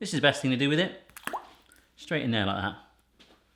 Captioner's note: plops